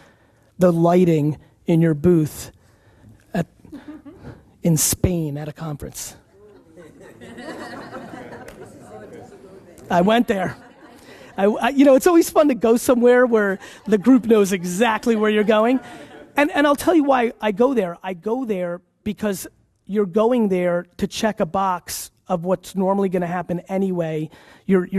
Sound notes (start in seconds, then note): 6.4 audience laughs